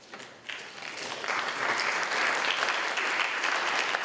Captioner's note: applause